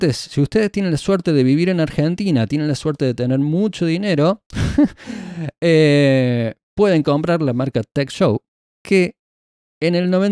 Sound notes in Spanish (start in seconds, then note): 4.5 risas